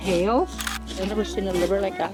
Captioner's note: camera shutter sound